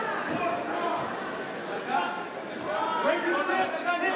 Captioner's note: crowd cheering